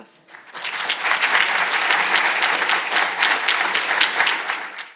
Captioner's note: audience applauding